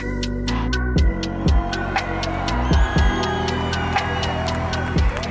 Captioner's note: audience cheers